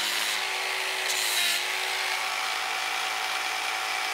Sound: whirring

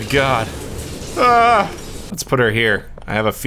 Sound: dying llama noise

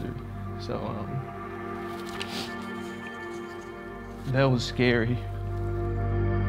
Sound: sniffling

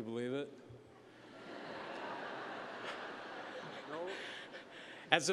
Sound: laughter

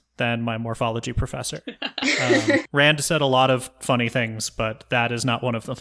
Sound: laugh

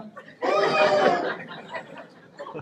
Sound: booooo!

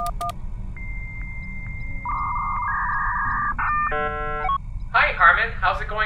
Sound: dial-up modem connecting; boop boop boop

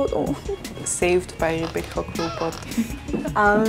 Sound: laughs

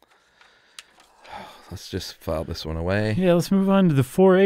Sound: sighs

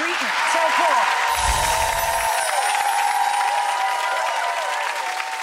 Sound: audience applauding

